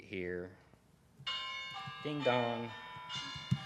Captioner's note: bells chiming